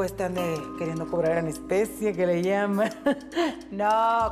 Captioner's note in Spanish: Ríe